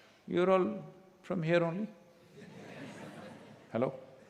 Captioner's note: laughter